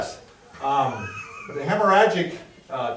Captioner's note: laughs